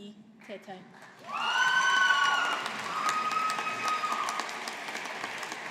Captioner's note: audience applauding